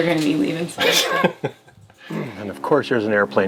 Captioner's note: laughs